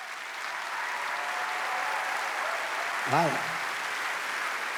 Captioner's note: audience applauds